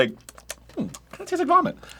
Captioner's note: smacks lips